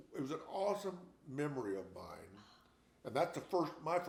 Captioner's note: none